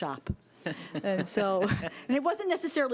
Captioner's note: laughing